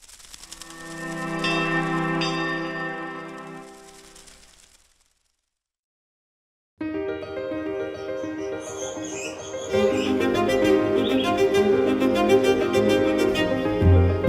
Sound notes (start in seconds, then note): 0.1 logo shuffling; 1.2 bright music; 6.8 bright piano music; 8.2 birds chirping